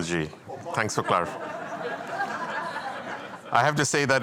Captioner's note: laughter